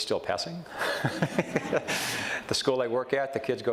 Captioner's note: chuckles